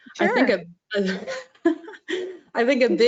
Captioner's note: laughs